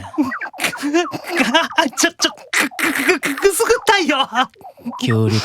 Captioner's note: giggle